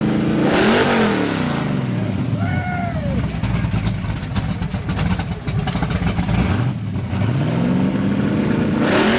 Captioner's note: engine revving